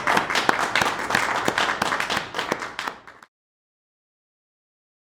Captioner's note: audience applauds